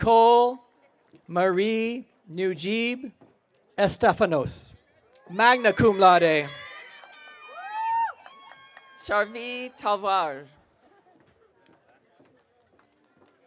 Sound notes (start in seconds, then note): 5.3 audience cheering